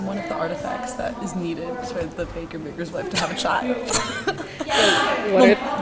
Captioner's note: laughs